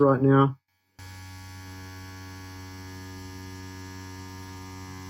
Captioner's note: machine whirring